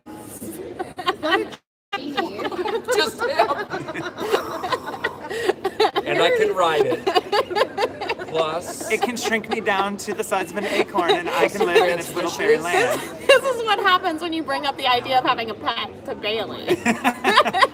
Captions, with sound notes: and it could grant me wishes. (laughter) - And I could ride it. Plus . . . - And it could shrink me down to the size of an acorn and I could live in its little fairy land. - This is what happens when you bring up the idea of having a pet to Bailey.